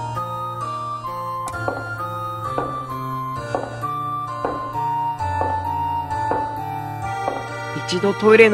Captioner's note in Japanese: 足音：コツコツコツ･･･